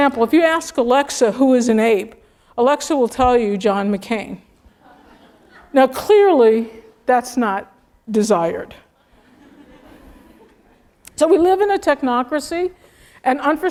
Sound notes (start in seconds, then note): 4.8 laugh; 9.1 laugh